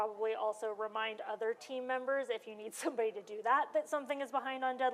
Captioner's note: none